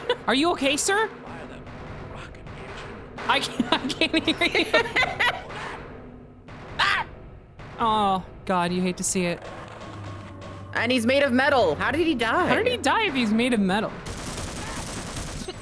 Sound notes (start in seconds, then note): 1.8 loud banging sounds; 3.4 laughs; 3.4 laughing; 9.0 metal clanking